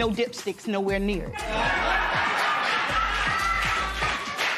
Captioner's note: laughter